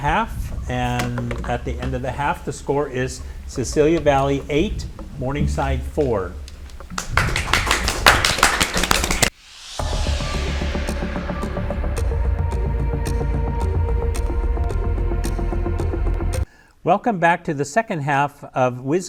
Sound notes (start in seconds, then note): 6.9 audience applauds; 11.6 dramatic music